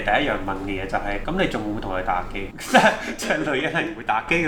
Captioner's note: laugh